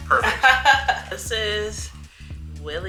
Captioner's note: laughs